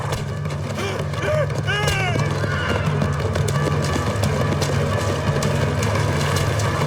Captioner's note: dramatic music; man yelling